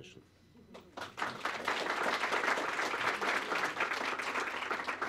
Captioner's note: applause